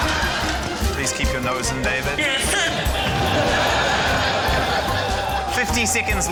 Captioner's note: laughter